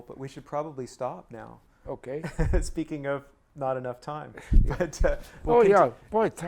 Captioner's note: laughs